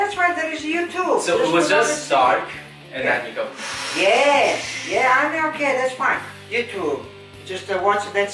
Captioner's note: Darth Vader breathing